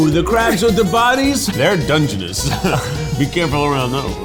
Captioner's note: chuckles